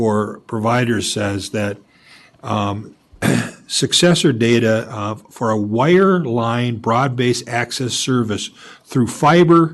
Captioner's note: clears throat